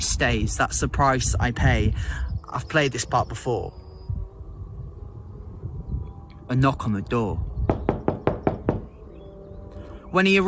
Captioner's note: knocking